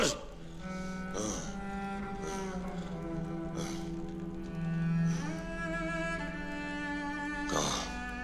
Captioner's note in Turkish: Hırıltılı nefes sesleri